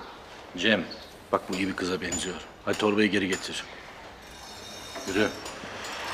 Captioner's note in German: Spricht Türkisch